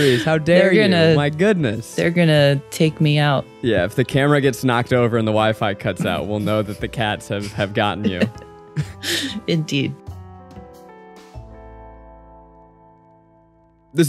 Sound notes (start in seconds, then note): 9.8 chuckles; 10.9 soft music